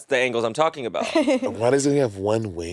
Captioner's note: laughing